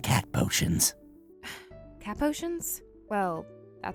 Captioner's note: sigh